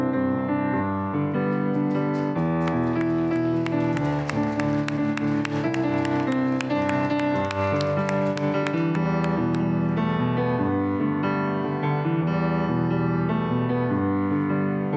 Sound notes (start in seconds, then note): 2.2 applause